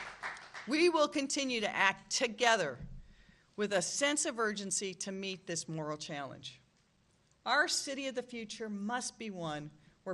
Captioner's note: applause